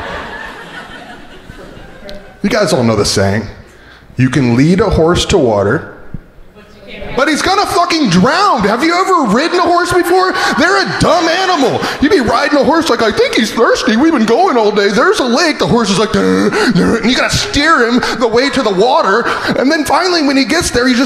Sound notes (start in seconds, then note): 0.0 crowd laughing; 17.2 braying